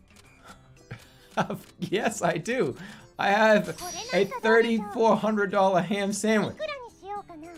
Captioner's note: laughing